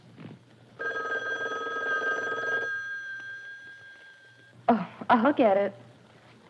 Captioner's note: phone rings